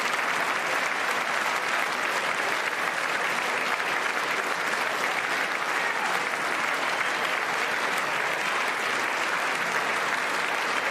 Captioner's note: applause